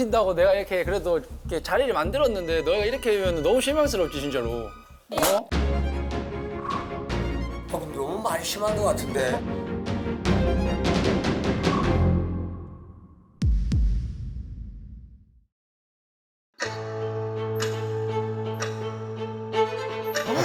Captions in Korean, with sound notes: 희찬 선배님의 독설을 가만히 듣고 계시던 한 어르신 (찰싹!) “거 너무 말이 심한 것 같은데?” “거 너무 말이 심한 것 같은데?” 갑자기 벌어진 어르신과 다크비 선배님의 대치 상황 연습생들은 이 위기를 어떻게 헤쳐나갈지... 다음 이야기 그날이 다가왔다